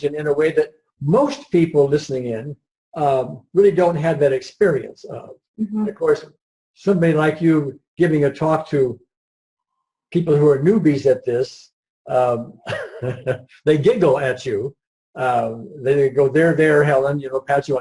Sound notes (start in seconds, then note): 12.6 laughs